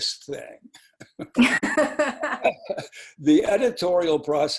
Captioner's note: laughing